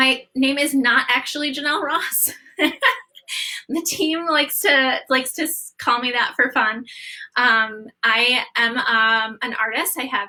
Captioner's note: laughter